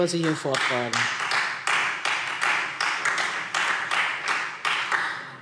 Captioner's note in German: Beifall Freie Demokraten und vereinzelt SPD